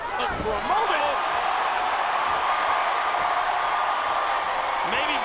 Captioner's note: crowd cheering